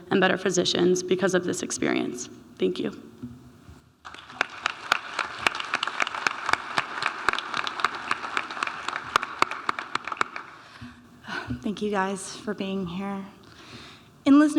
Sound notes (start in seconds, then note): 4.0 audience applauding